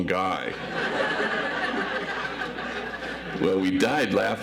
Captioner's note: audience laughs